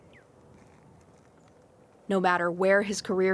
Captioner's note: bird chirping